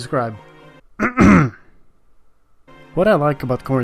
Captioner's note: clears throat